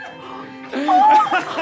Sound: gasps

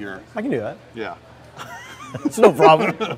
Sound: men chuckle

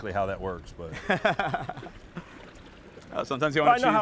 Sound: laughs

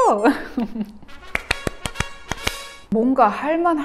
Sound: clap clap clap clap!!!

